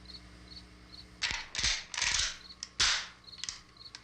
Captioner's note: gun cocking